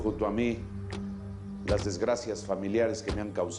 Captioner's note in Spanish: none